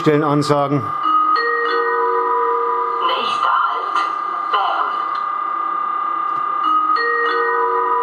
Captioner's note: gong